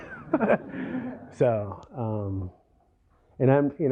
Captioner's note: laughter